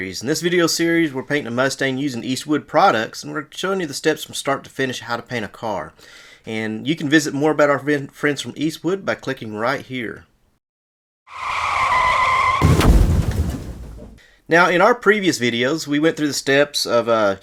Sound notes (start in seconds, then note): 11.3 loud tire skids; 11.4 loud explosion